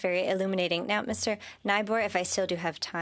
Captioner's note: speaking French